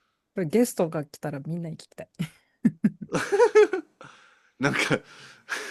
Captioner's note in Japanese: 笑い